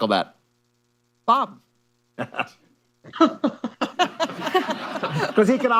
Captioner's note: laughter